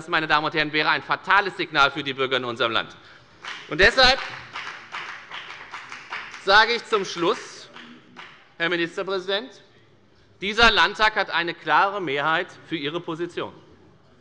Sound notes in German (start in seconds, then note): 3.4 Beifall bei der FDP